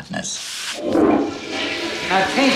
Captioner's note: toilet flushes